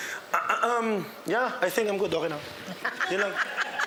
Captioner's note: clears throat; laughs